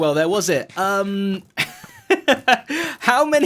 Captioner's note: laughs